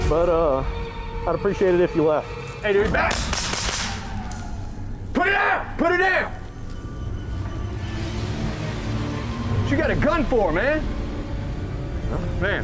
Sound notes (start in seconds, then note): 2.9 gunshots